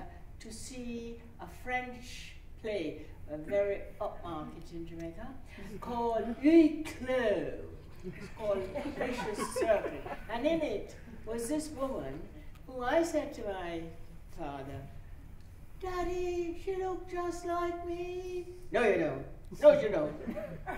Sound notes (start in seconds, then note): 5.3 upper-class accent; 7.9 laughter